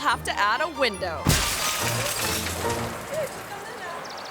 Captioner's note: glass shattering; car door thuds